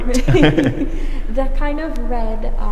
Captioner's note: both people laughing